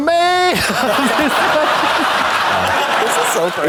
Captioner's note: audience laughs